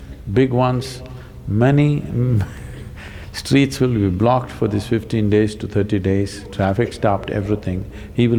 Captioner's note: laughs